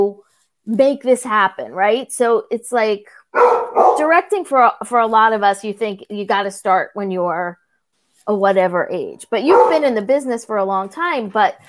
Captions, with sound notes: make this happen right so it's like (bark) directing for for a lot of us you think you got to start when you're whatever age (bark) but you've been in the business for a long time but